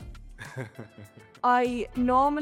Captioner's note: laughs